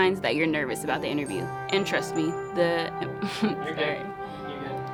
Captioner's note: laughing